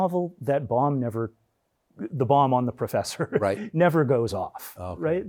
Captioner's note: chuckles